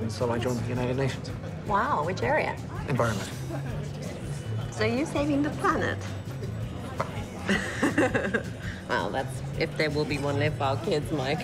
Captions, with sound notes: so I joined the United Nations. Wow, which area? Environment. So you’re saving the planet. Well. [Chuckles] Well, that’s if there will be one left for our kids Mike...